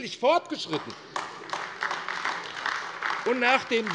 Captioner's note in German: Beifall AfD